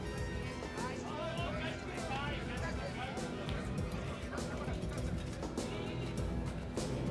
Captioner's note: patrons yelling indistinctly in the background; uptempo rock music continues